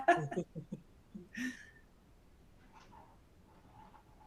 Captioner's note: chuckles